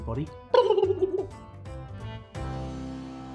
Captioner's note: gobbling sound